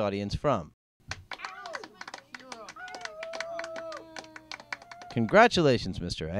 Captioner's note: cheering crowd